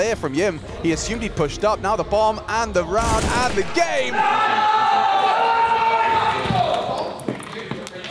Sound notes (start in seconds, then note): 3.7 Vitality cheering